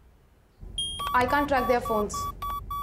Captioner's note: Beeping